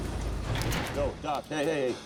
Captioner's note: metal door clanks